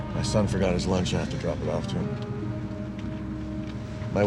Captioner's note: sighs